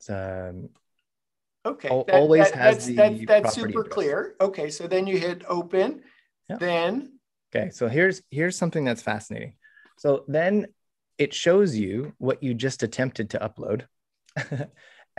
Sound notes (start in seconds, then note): 14.3 chuckles